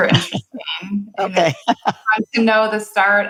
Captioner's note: laughs